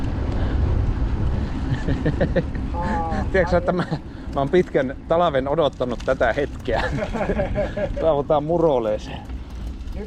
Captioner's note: laughter